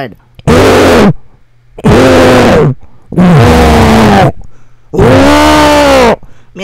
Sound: Buget train whistle

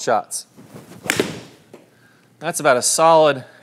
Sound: ball cracking

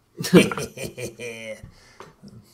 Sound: laughs

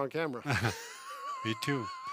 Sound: laughing

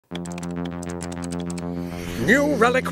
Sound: keyboard clicking

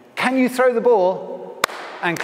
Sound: clap

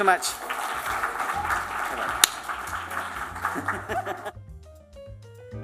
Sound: applause

